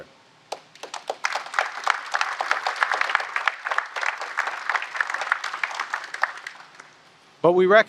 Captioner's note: applause